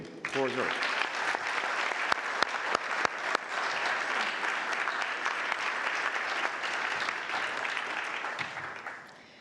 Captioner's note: applause